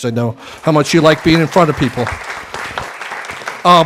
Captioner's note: applause